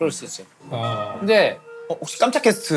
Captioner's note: ding-dong